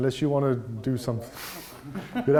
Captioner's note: laughs